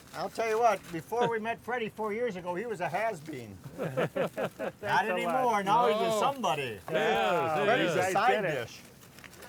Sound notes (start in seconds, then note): 3.6 men laugh